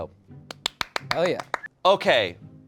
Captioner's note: applauds